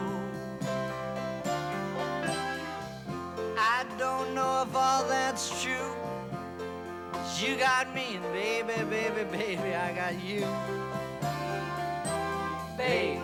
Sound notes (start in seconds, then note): none